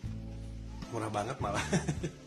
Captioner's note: laugh